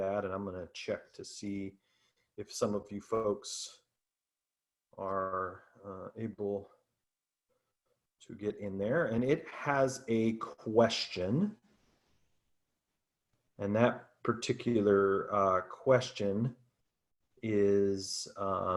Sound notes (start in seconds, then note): none